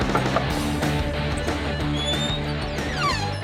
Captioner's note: knocking